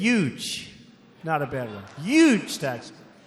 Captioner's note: laughter